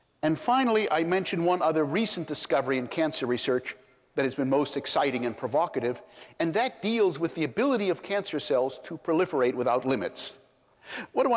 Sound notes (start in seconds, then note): none